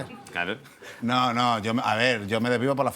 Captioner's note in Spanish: none